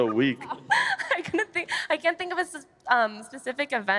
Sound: laughter

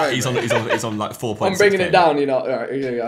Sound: all laughing

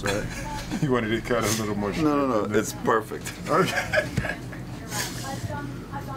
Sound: laugнs

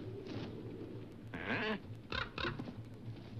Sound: wings beating; crow crackles

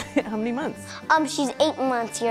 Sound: laughs

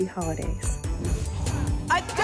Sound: whoosh

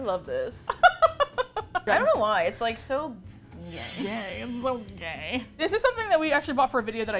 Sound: laughs with delight

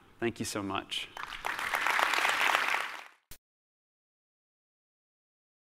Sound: applause

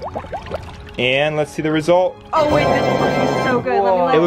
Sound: triumphant sound

